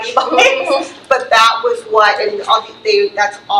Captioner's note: laughs